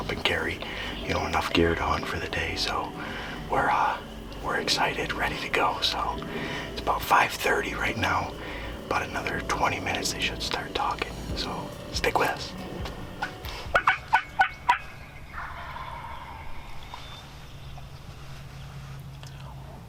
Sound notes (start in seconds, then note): 13.1 turkey call chirping; 15.7 turkey gobbling